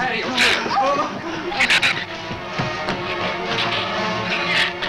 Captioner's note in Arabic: زئير الزبابة